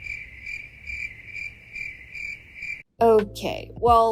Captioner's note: crickets